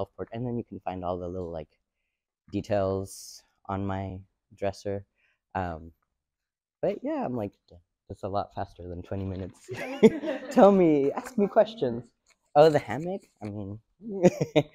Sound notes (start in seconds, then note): 9.7 and the audience laughs; 14.0 giggles